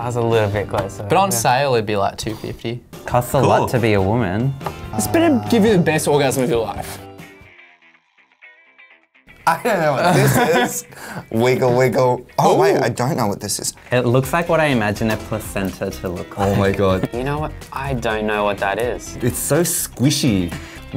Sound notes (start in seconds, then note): 7.5 playful music; 9.8 laughs